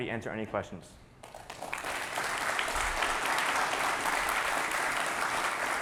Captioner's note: audience applauding